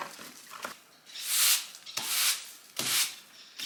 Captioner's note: broom brushes against floor